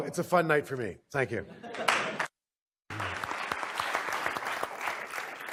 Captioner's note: applause